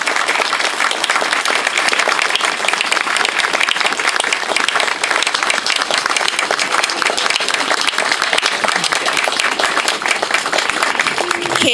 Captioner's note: clapping